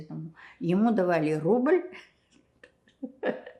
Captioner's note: laughing